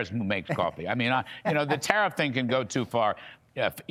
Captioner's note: laughter